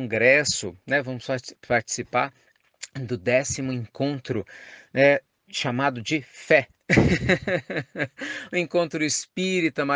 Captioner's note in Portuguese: Risos